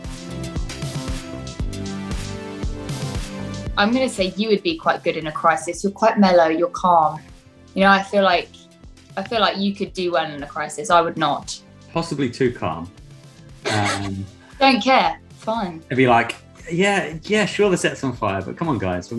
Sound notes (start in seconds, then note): 13.6 laughs